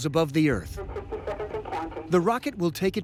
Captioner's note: on PA